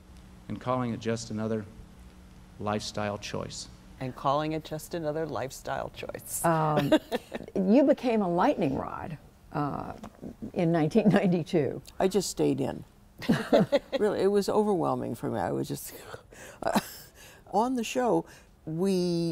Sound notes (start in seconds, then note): 6.7 laughter; 13.2 laughter